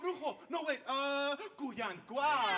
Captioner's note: speaks in Spanish; speaking Spanish